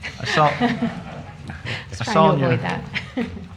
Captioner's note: laughter